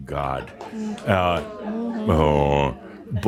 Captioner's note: someone says “Ohh!”